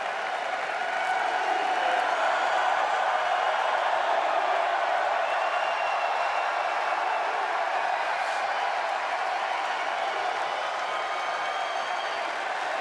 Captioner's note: cheers and applause